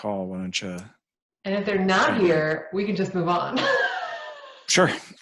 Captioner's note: laughs